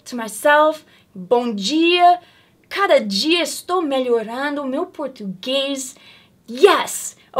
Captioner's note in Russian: говорит на португальском